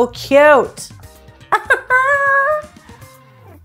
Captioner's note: laughs happily; funky music